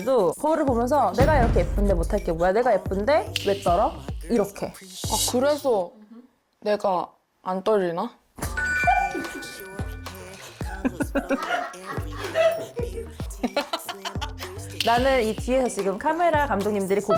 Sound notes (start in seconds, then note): 8.3 staff laughing